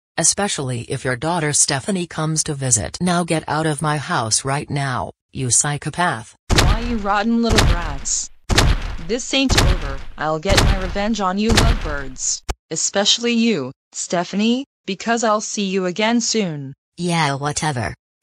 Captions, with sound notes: Especially if your daughter Stephanie comes to visit! Now get out of my house right now, you psychopath! Why you rotten little brats! (stomping) This ain't over! I'll get my revenge on you, lovebirds! Especially you, Stephanie, because I'll see you again soon! Yeah, whatever!